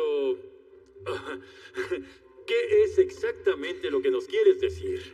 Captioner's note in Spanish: Ríe